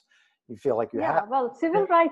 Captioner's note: audio glitch